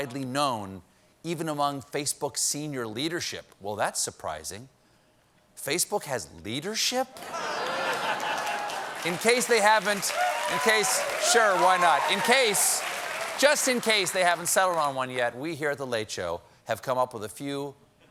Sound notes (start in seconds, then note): 7.2 laughter; 7.4 applause; 10.7 applause